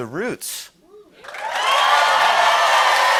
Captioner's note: cheers and applause